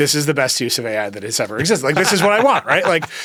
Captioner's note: Hank laughs